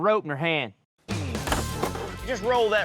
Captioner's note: rope clatters to table